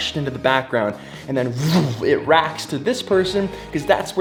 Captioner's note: whooshes